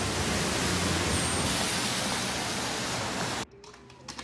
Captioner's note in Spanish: Bullicio en la calle